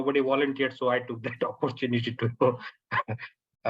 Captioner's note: chuckles